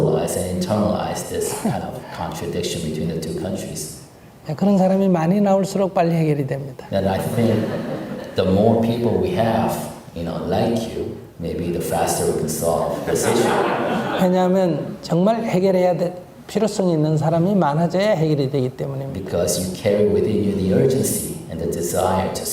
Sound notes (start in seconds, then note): 13.0 audience Laughter